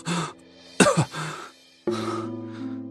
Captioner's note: coughs